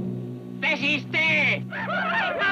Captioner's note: Delgadito speaking foreign language; Apaches shout